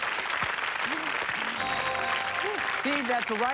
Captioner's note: cheers and applause; chime